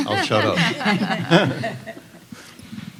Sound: laughter

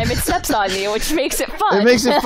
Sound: laughs

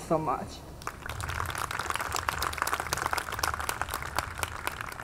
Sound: audience clapping

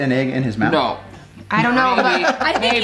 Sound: Rocky laughs

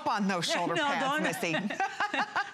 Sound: laughter

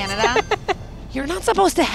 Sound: laughs

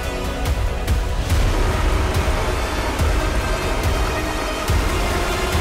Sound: water gushing

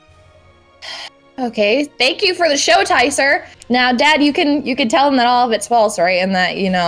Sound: sigh

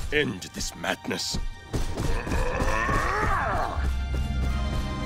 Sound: grunting

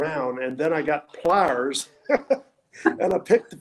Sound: laughing

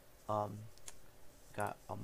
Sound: click

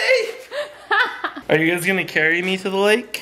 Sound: laughter

